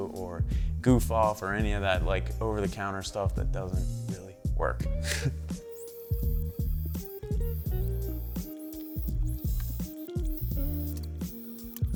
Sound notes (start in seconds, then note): 5.0 chuckles; 5.5 buffer squeaking